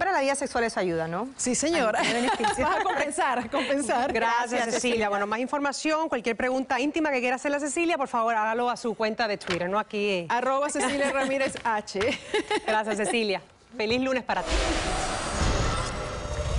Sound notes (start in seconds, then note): 2.0 laughing